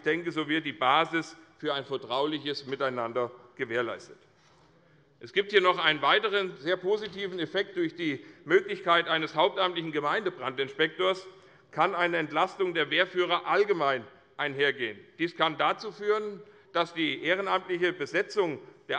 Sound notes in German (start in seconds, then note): none